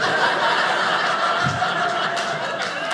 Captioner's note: audience laughing